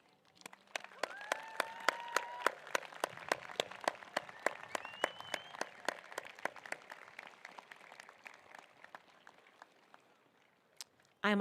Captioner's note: applause